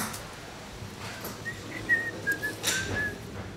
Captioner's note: loose whistling